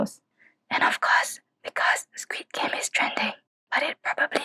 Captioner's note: whispers